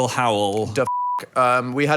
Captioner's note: beep